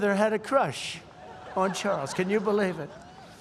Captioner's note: laughter